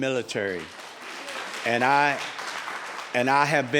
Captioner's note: applauding